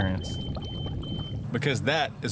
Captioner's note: alarm beeping